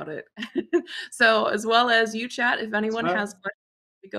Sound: chuckles

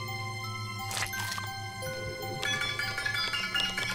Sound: squishing noise; electronic beeping

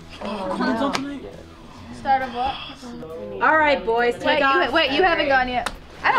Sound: laughs; laughs

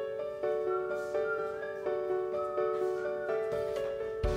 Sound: older sister whistling

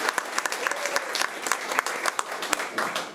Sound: applause

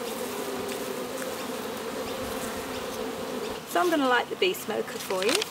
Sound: bees buzzing

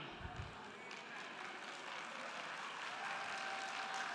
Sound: crowd clapping

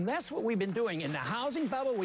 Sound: applause

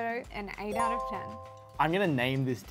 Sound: chime

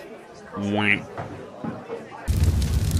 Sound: bruh noise

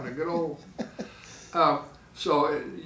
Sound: laughing

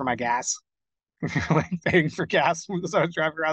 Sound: laughing

